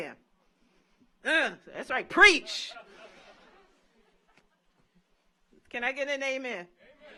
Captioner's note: audience laughs